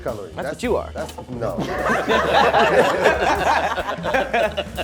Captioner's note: laughing